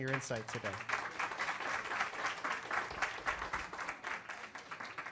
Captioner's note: audience applauding